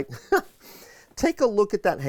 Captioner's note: chuckles